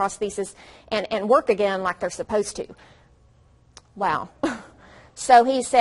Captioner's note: deep breath